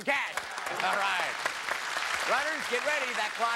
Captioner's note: cheers and applause